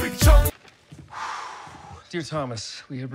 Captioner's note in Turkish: iç çekmek